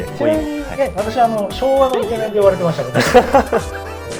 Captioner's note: laughs